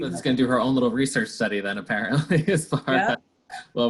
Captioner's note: laughs